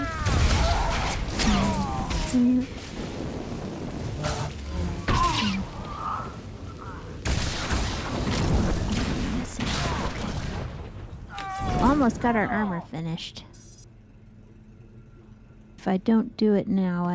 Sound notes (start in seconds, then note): 0.0 screaming; 0.1 gunshots